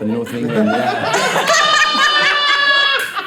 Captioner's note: all laughing